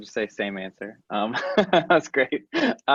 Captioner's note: laughing